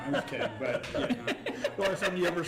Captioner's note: group laughs